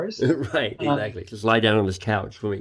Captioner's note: laughs